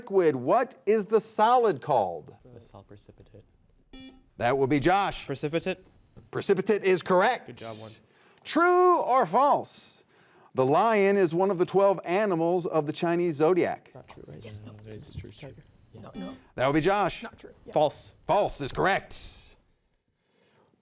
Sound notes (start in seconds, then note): 3.9 buzzer beeping; 16.0 buzzer beeping